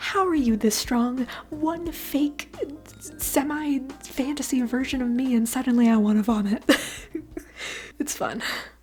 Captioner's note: chuckle